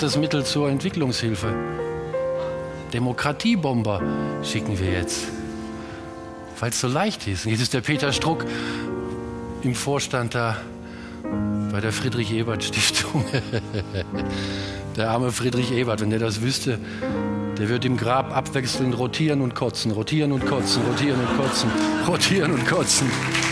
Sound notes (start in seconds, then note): 13.0 laughter